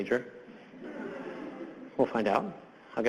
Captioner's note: audience laughs